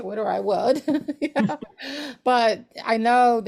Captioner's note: laughs